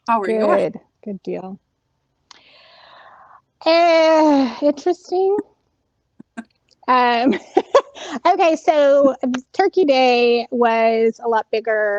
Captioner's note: laughter